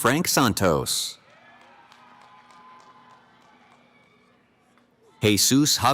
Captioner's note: cheering